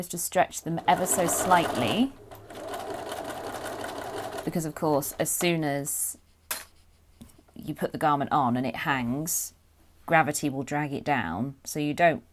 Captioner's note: sewing